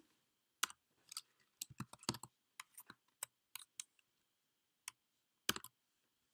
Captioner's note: long pause